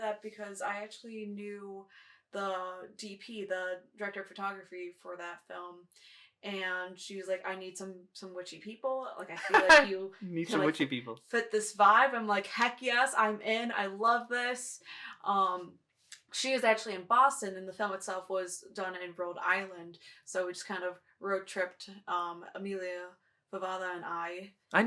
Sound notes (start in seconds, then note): 9.4 chuckles